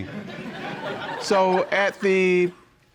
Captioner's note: audience laughing